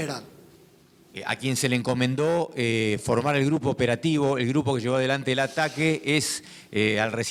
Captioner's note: speaking in foreign language